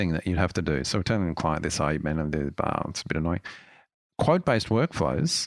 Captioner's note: muttering